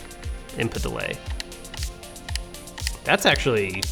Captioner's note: clicking